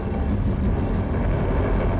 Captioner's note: rumbling